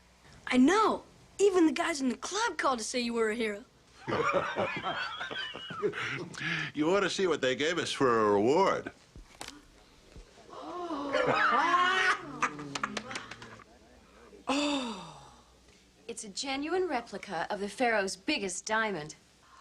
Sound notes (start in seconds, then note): 10.5 women gasp